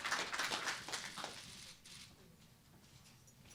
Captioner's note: applause